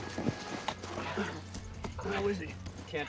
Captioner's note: moan